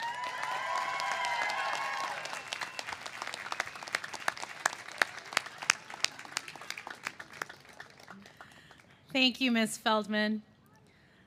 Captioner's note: cheers and applause